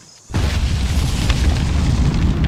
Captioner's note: loud explosion